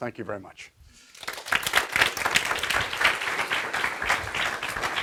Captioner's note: audience applauding